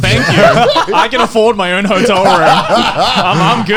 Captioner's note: laughing